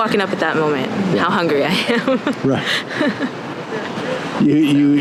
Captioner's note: laughing